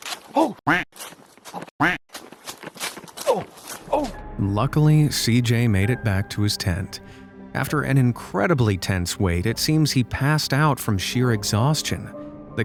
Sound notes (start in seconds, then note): 1.8 quack